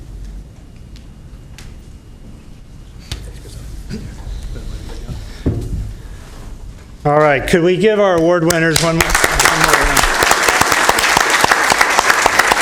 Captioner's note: applause